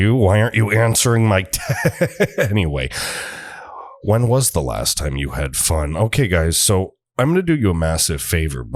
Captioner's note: laugh